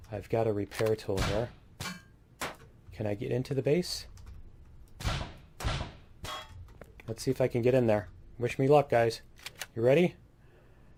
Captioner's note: pinging